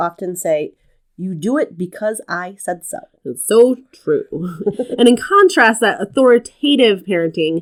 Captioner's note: laugh